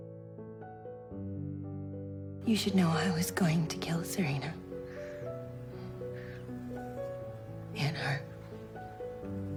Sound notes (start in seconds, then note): 2.6 voiceover